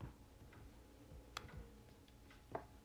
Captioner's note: tombol lampu berbunyi klik